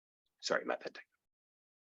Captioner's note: speaking faintly